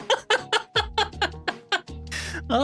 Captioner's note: laughing